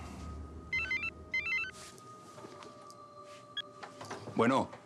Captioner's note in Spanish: suena el celular